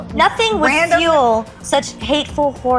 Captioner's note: beep